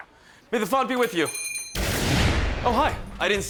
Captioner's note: bell dings